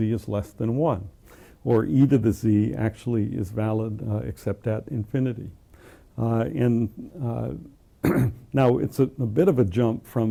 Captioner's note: cough